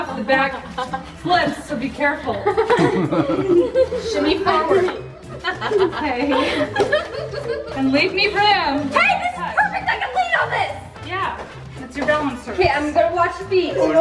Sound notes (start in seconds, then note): 5.6 girls laughing